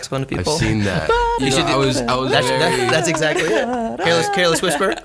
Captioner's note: mimics saxophone; all laughing